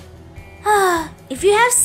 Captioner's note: sighs happily